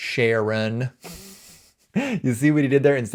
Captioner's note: chuckles